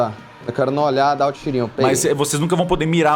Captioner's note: pew